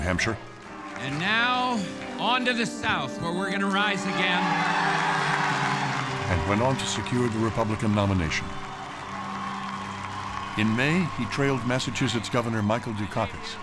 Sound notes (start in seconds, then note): 4.5 audience cheering and applauding